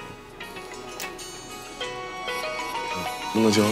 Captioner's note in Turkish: Telefon zili sesi